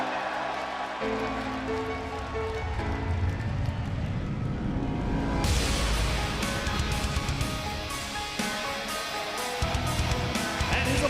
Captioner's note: crowd cheering